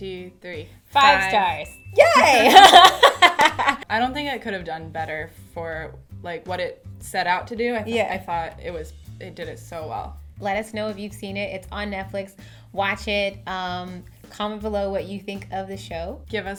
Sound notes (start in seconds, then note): 2.3 laughs